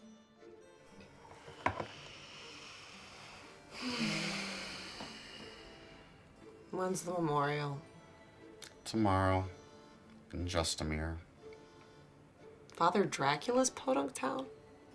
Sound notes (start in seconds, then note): 2.7 both exhale; 2.7 both inhale